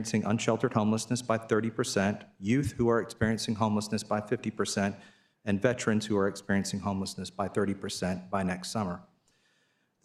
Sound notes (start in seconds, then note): none